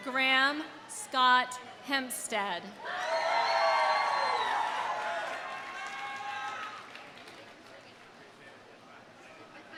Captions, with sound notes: Graham Scott Hempstead. (audience cheering) (audience applauding)